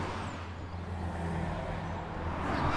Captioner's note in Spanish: carro pasando